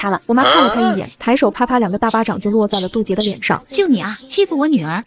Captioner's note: slap slap